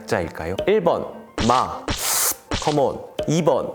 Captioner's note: ssshh